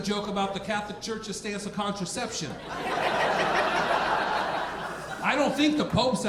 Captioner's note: audience laughing